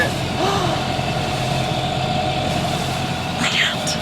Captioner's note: gasp!